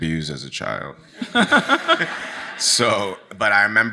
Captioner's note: audience laughs